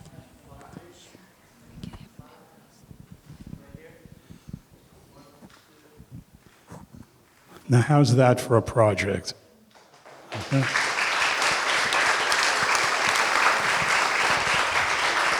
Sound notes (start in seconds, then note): 1.6 whispering; 9.7 applause